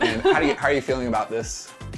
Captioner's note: laughs